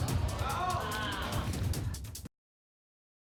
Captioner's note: audience exclaiming